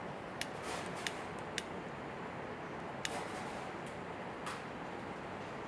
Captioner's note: lighter clicking